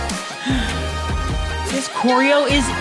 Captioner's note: gasp